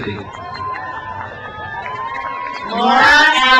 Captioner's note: crowd cheers